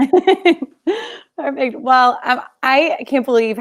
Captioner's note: laughing